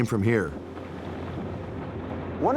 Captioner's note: iceberg rumbling